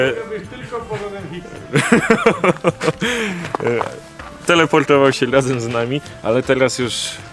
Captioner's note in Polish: śmiech